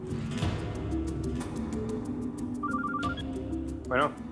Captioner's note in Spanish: Suena el celular